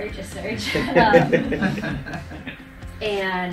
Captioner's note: laughs